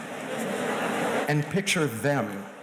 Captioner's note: audience chuckles